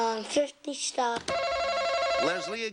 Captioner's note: buzzer buzzes